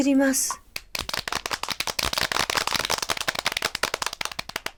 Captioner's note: applause. Sound is handmade